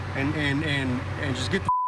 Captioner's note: beep